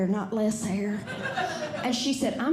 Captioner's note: audience Laughing